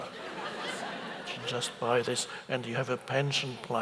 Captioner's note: audience laughs